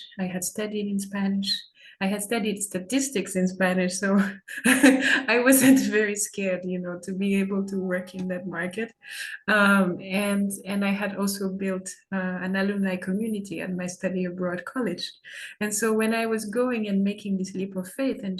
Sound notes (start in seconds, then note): 4.5 chuckles